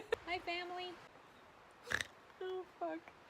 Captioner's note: snork